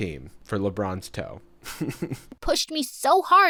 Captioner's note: chuckles